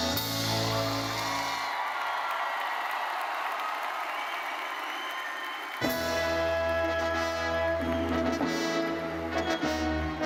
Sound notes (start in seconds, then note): 0.4 audience cheering and applauding; 5.8 upbeat orchestral music